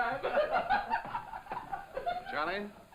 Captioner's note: laughing